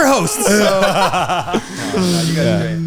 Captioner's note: all laughing